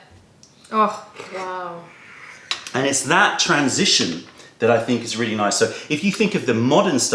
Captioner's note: sips tea